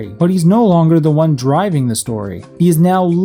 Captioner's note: none